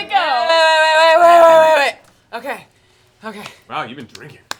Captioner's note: drunkenly